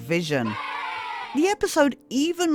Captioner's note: kids cheering